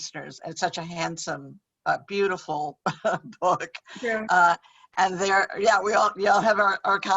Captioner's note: chuckles